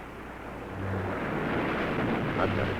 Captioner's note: waves crashing